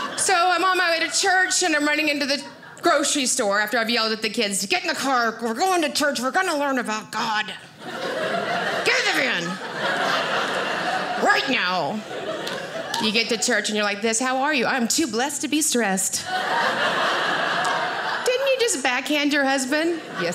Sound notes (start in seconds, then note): 7.7 audience laughing; 16.2 audience laughing